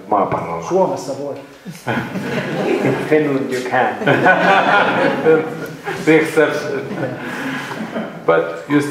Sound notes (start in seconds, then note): 3.5 laughter